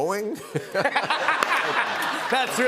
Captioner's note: laughter